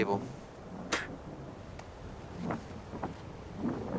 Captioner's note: spitting